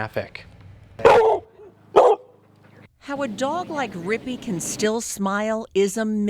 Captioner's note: dog bark